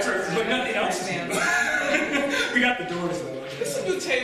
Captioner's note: laughs